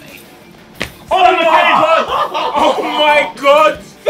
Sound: Ethan laughing

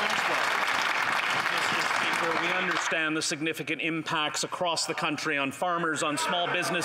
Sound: applause

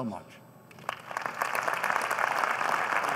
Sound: applause

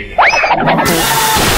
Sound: sizzle; gun shot

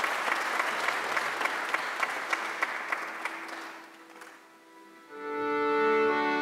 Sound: audience applause continues

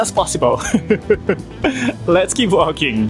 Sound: chuckles

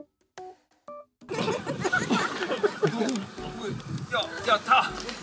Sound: Laughter just by looking at Yong Pil’s shoulder

